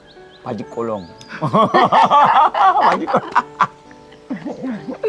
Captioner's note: both laughing